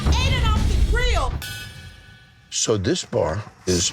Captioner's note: bell dings